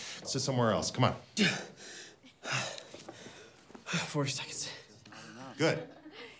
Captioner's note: gasps